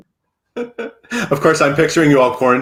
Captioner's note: laughs